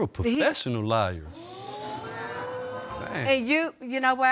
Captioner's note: audience exclaiming